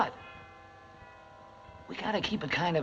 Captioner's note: bells tolling